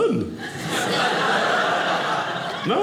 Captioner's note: audience laughing